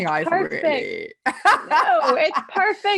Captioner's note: laughing